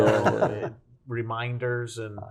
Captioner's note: chuckles